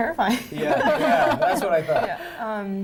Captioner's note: laughing